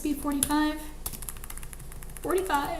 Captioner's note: keyboard clicks